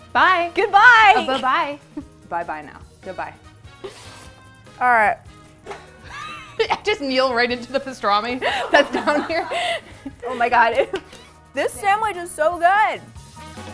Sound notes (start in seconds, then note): 5.7 laughs; 13.5 bright jazzy music